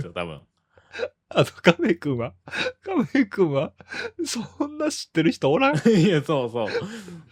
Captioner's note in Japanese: 笑い